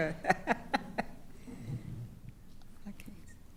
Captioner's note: laughing